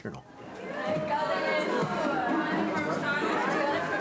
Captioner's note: overlapping chatter